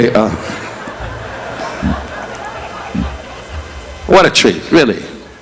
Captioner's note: audience laughing; laughing